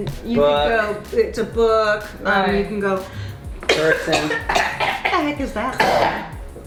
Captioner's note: loud coughing sounds